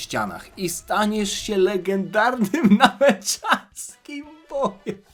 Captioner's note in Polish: śmiech